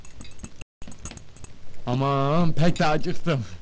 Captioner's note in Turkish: çay kariştirma sesleri̇